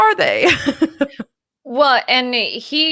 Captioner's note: laughs